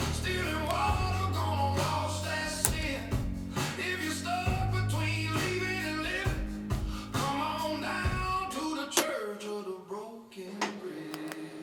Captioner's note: hammering metal